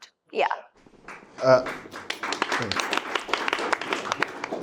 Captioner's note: attendees clapping